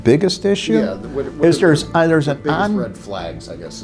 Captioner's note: stammering